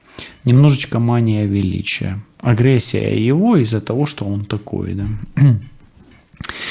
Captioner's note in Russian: откашливается